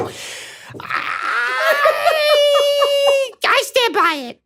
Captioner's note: laughs